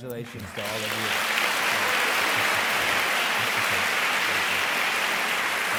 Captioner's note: audience clapping